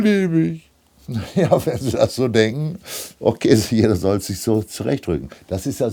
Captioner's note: laughing